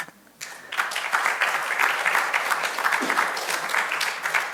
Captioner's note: audience applauding